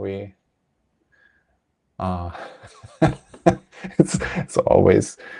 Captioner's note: laughs